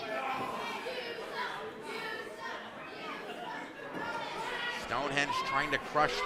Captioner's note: kids chanting "You suck"